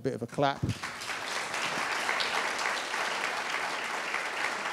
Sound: audience applauding

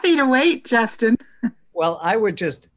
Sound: laughs

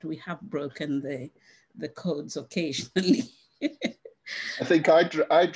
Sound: laughs

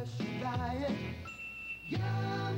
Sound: ding!

